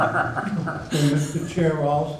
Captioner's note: laughing